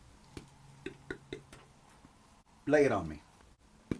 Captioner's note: Phil beatboxes